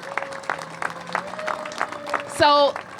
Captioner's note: applause